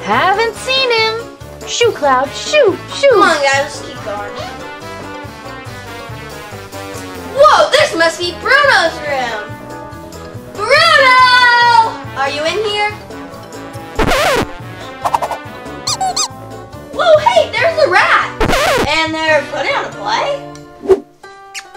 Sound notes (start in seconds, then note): 15.8 squeaking noise